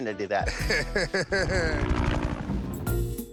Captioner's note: laughs